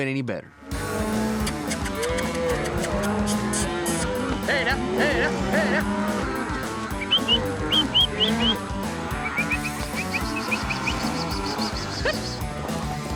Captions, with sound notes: THINGS COULDN'T HAVE WENT ANY BETTER. [COWS MOO] HEY NOW, HEY NOW... [WHISTLING, CALLING]